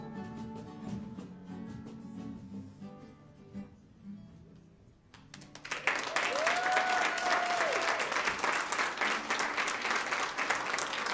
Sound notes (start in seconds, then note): 5.2 audience applauds; 5.7 audience cheers